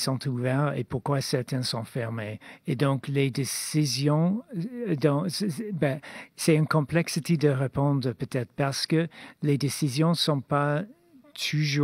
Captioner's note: speaking French